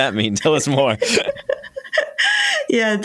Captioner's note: laughing